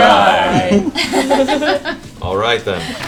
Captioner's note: all laugh